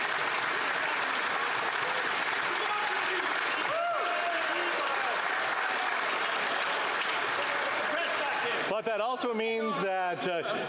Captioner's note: applause